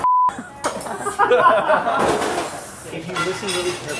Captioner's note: laughing